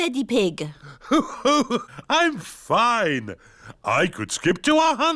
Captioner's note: laughs